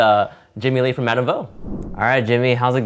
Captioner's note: air whooshing